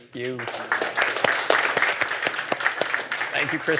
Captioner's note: applause